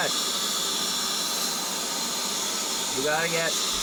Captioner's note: air duster whirring